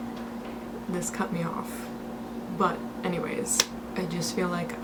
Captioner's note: clap